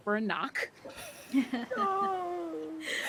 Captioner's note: people chuckling